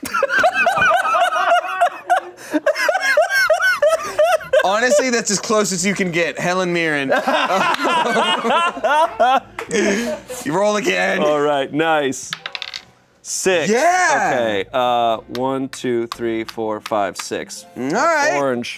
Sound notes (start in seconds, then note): 0.0 everyone laughs; 7.0 laughs